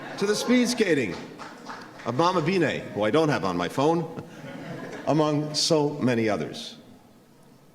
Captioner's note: laughter